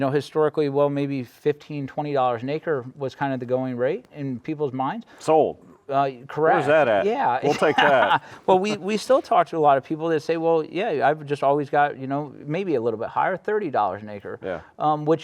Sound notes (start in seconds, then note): 7.4 laughing